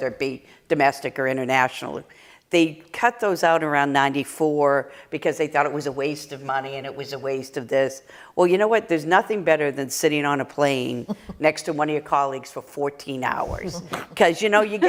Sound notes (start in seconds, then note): 11.0 laughter